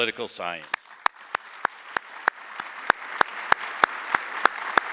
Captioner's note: audience applauding